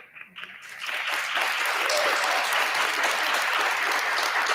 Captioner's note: audience applauding